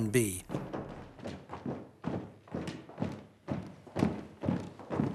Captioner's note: footsteps thudding